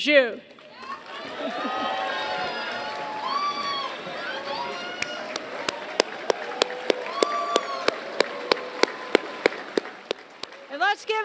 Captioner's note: applause